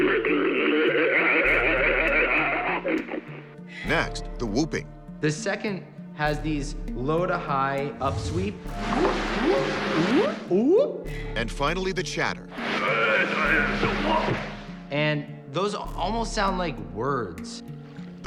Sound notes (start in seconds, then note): 0.0 growling; 8.4 whooping; 12.6 chatter